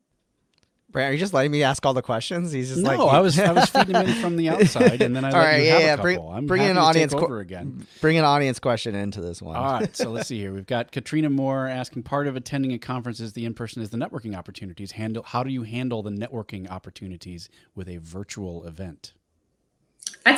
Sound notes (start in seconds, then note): 9.6 laughing